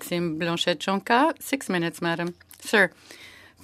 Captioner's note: speaking French